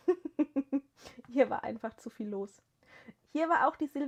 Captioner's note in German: gelächter